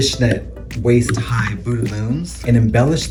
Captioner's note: speaks in French